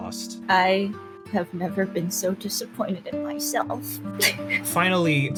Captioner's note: sob